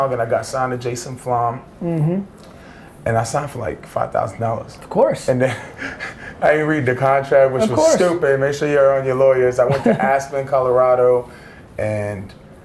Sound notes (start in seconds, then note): 5.7 laughs